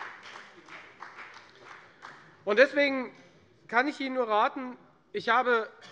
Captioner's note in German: Beifall bei der FDP